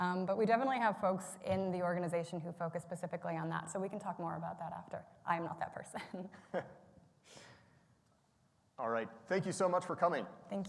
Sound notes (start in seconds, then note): 6.4 laughs